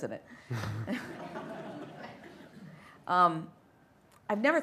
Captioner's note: light laughter